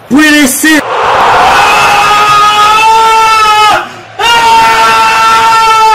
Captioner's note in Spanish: Ben Brereton grita desconsoladamente